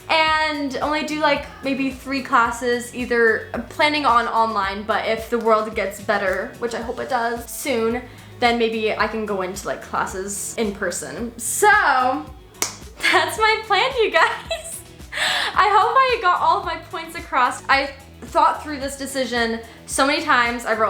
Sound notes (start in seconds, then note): 12.6 claps; 14.2 laughs